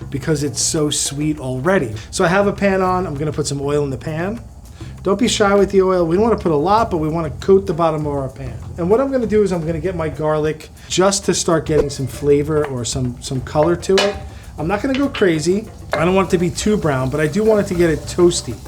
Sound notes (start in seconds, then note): 13.7 wooden spoon taps